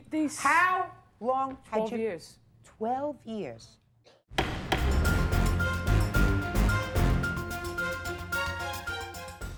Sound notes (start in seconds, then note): 4.3 gavel banging; 4.4 dramatic music